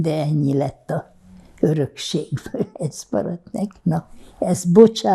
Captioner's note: laughing